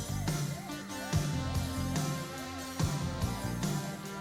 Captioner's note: sirens wail